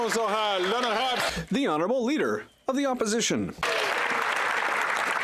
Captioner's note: applause